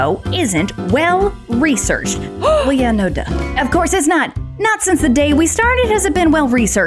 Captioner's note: gasps